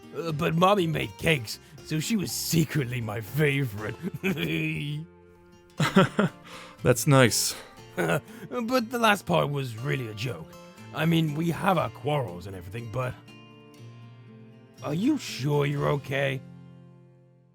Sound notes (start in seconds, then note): 5.8 silly giggle; 5.8 chuckle